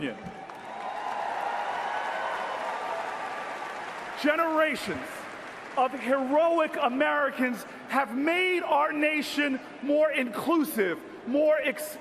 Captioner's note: applause